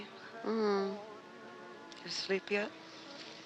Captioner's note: groaning